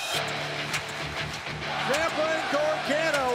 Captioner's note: crowd cheering